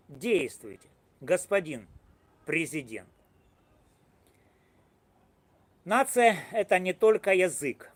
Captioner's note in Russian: Пауза